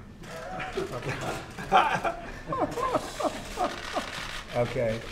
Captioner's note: laughter